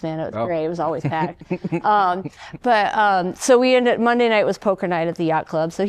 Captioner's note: laughter